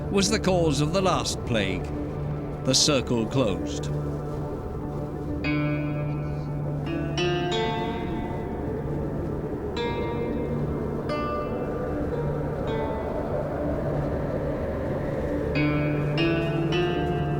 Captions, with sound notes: was the cause of the last plague. The circle closed. [melancholic string melody] [wind howling]